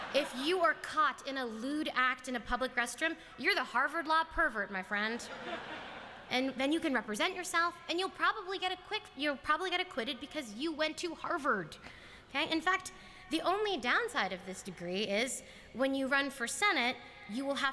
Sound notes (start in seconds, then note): 5.2 laughter